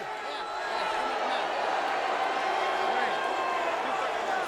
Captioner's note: audience chattering